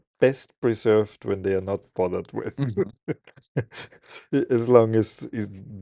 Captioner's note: laughing